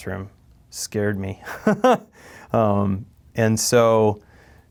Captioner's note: laughs